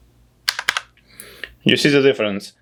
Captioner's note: typing